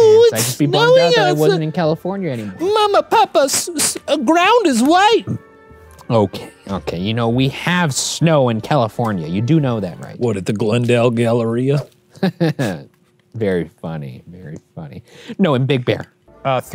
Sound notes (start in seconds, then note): 10.4 normal voice; 12.2 laughs